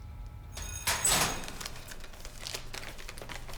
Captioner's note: school Bell Rings